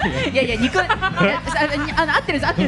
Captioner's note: laughing at the back lol